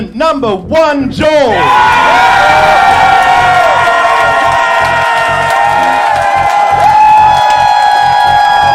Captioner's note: crowd cheering